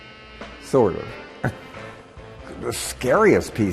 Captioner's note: chuckles